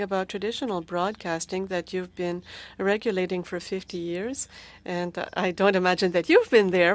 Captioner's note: speaking French